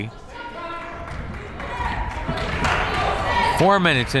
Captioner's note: crowd members shouting